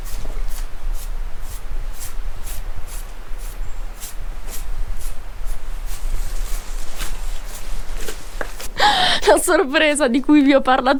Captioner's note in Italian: risate